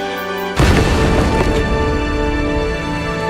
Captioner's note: explosion